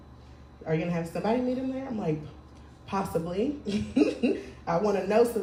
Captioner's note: laughing